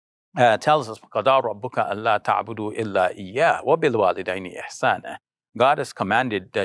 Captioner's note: speaking in foreign language